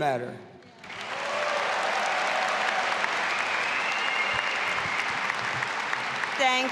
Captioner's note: audience applauding and cheering